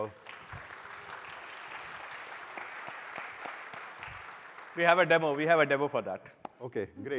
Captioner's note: applause